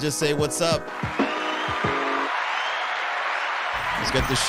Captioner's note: audience applauding